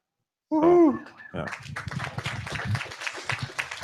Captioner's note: applause